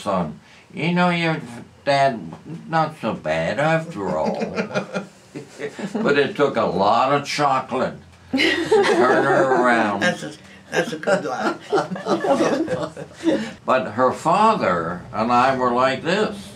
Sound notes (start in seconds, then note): 9.1 laughter